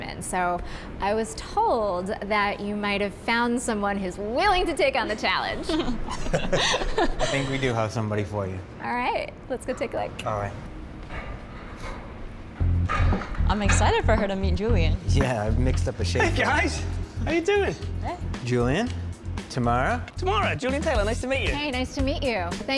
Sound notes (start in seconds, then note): 5.4 group laughing